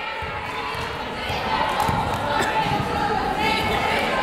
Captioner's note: yelling